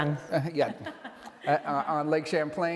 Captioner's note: both laughs happily